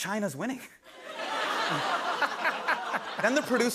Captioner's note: laughter